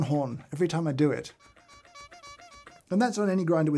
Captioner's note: clown horn honking